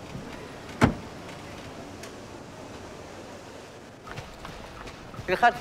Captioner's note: door thuds; footsteps pattering; speaks foreign language